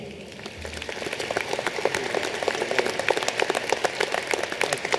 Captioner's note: applause